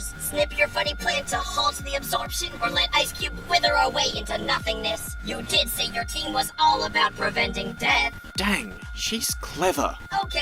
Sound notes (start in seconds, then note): none